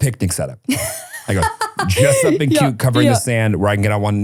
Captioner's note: person laughing